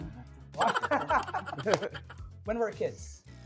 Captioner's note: laughing